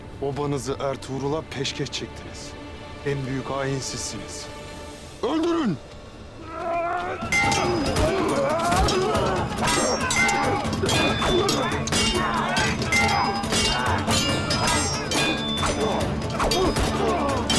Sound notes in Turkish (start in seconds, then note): 7.0 Kılıç sesleri; 12.7 Kılıç sesleri; 12.7 Müzik - Aksiyon